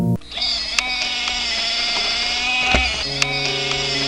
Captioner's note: wheelchair whirs